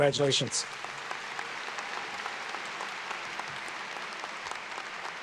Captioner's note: audience claps